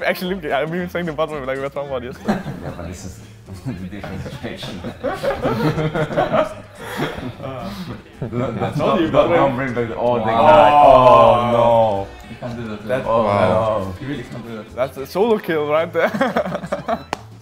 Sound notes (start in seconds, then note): 3.6 laughs; 5.0 laugh; 16.0 laughs